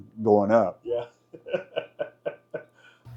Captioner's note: laughs